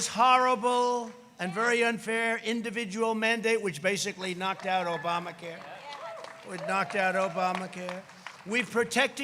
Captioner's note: applause